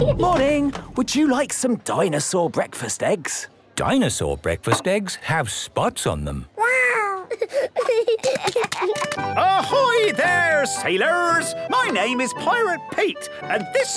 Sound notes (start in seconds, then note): 7.1 giggling